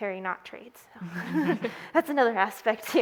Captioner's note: laughing